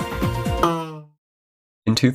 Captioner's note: disappointing boing sound